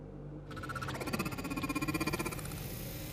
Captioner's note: robotic scanning